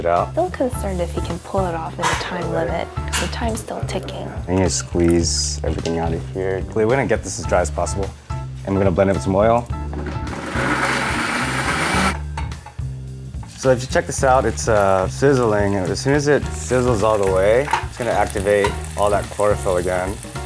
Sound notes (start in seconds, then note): 10.1 blender whirring